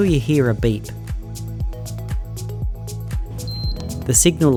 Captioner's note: faint beep